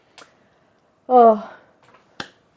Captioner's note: sigh